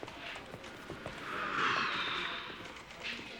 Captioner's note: exhaling heavily